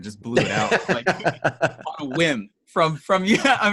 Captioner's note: laughing